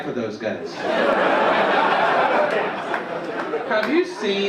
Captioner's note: audience laugh